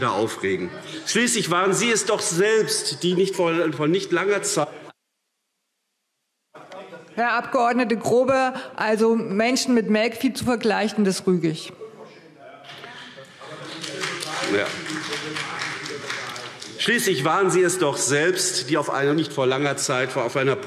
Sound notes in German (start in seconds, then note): 12.8 Beifall SPD und DIE LINKE